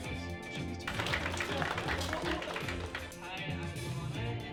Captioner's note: clapping